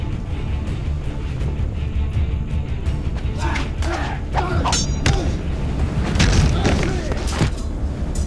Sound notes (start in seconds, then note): 6.0 thudding